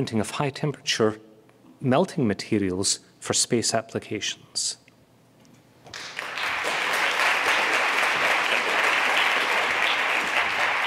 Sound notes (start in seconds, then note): 5.9 applause